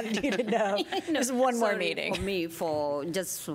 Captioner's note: laughter